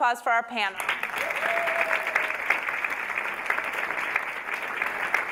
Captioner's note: audience applauding